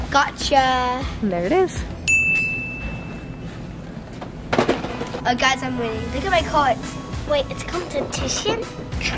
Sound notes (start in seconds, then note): 2.0 ding